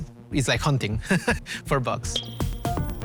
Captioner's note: laughs